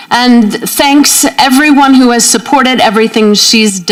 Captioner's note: none